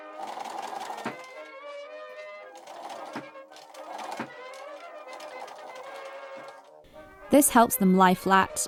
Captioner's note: machine starts and stops